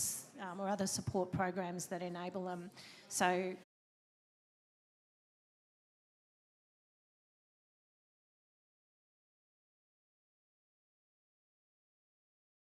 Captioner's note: audio loss